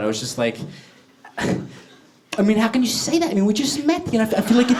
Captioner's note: Woody Allen voice